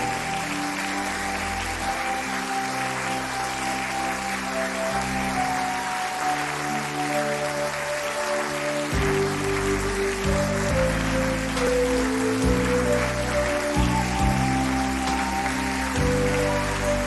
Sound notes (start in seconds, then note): 0.1 applause; 5.5 applause; 13.7 applause